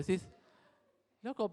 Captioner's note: crowd chuckles